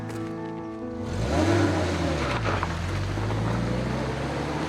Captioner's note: whimsical piano music plays; engine starts